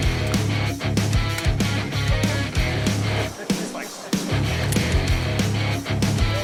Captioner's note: upbeat guitar rock music; water splashing; upbeat guitar rock music